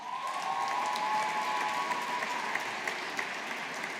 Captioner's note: audience applauding